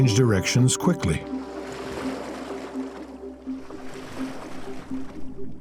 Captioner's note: water splashes